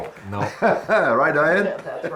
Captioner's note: laughs